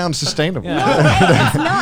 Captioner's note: guys laughing